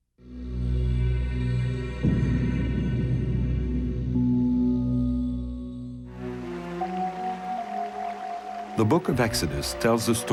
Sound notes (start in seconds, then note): 0.3 ominous orchestral music; 6.2 water splashing